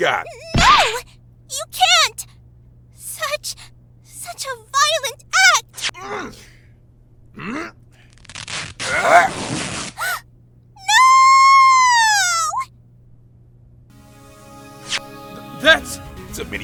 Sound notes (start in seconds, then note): 7.3 grunting!; 10.2 gasp!